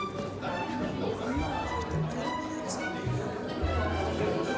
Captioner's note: people chattering